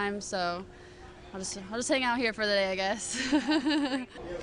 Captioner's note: laughter